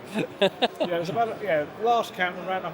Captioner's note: laughs